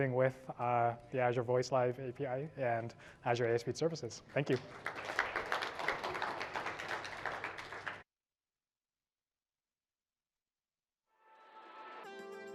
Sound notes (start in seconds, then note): 4.2 applause